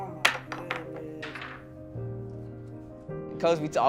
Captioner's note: banging